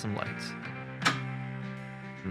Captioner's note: light switch